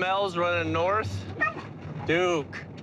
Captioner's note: barking